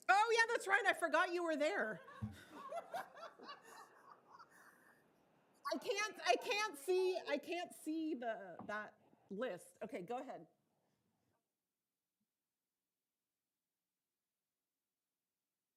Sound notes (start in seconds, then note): 2.0 members laughing; 11.6 silence